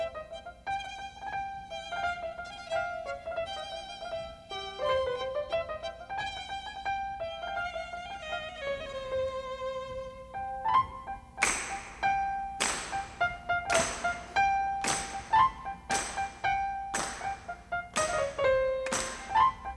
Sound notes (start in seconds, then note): 12.6 audience clapping